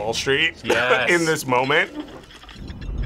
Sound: laughs

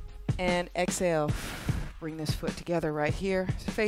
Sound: exhales

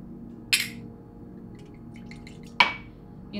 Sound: drinks being poured

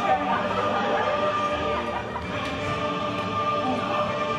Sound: laughter

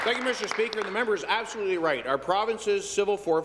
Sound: applause

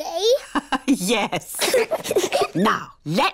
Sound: both giggle; laughs

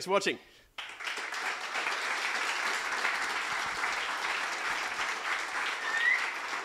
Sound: applause

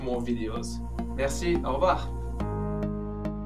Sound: speaking foreign language; mellow digital music

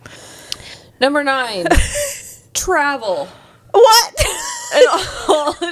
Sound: laughs

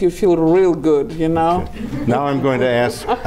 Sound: laughing

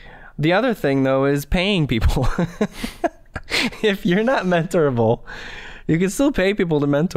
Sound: chuckle

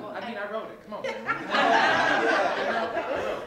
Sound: laughter

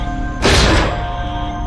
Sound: core control blast door breaks

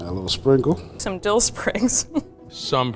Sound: chuckles

